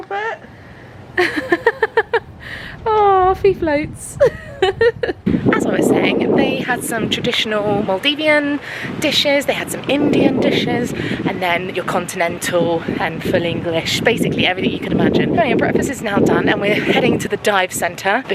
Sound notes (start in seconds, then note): 1.2 laughs